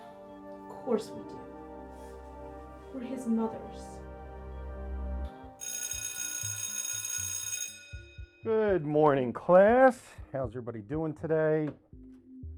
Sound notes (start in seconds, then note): 5.6 school Bell Ringing